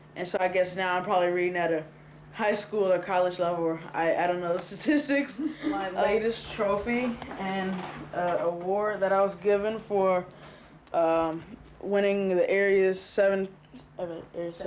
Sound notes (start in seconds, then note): 5.1 laughing